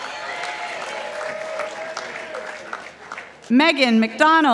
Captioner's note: participants applauding